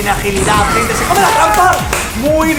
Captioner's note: claps in Spanish